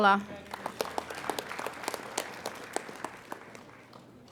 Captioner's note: applauding